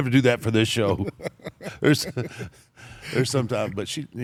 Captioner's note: laugh